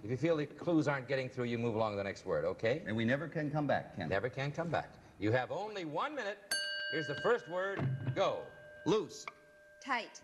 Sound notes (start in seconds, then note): 6.5 bell dings